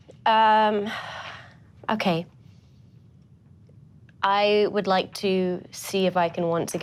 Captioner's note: sighs